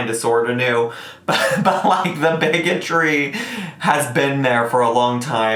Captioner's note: laughs